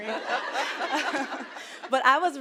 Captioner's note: audience laughing